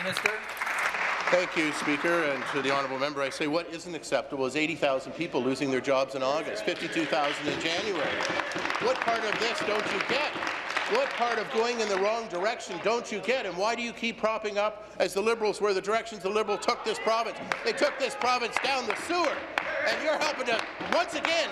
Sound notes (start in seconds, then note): 11.6 applause